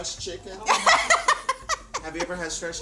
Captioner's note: laughs